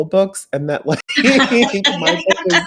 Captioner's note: both laugh